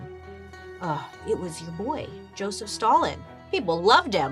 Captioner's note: groans